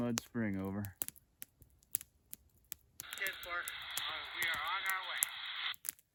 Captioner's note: radio voice